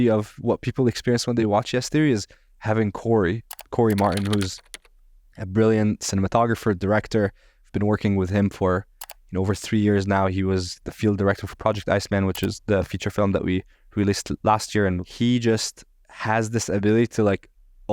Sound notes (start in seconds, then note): 3.5 keystrokes clicking